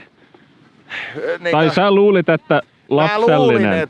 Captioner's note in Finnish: hengähtää